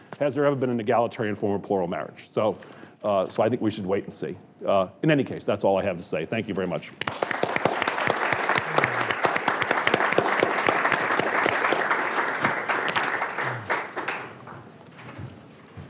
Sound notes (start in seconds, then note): 7.0 audience applauding